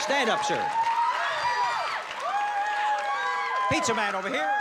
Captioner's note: cheering